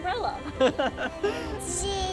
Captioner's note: laughs